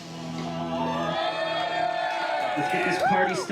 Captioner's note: crowd cheering